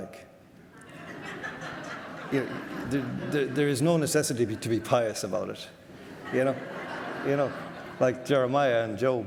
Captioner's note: audience laughter